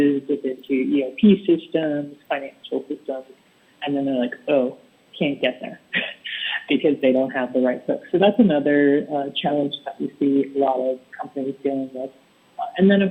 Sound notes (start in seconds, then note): 5.5 laughs